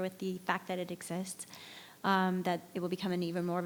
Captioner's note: none